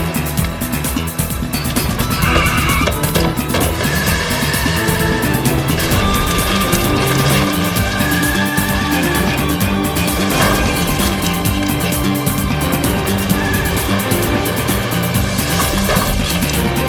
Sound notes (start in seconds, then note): 2.2 brakes screeching; 8.1 tires screeching